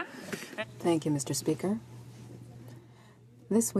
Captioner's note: speaking French